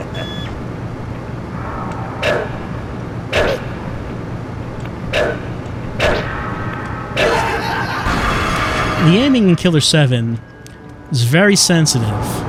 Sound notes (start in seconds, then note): 7.3 crazed laughter, blood explosion